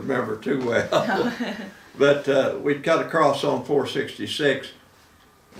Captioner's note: laughing